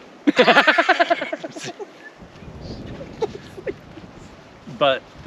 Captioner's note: laughing